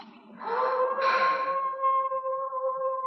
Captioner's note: howling